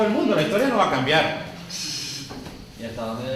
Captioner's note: laugh